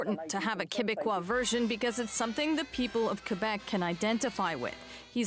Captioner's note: speaking French